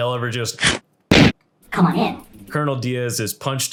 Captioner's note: boom